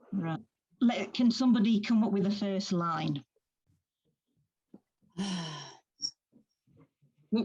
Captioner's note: sighs